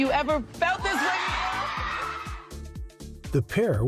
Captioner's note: crowd screams